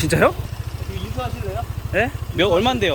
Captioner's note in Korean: 오토바이